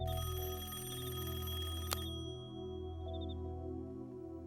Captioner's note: rings